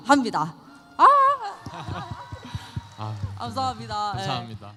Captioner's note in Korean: 박수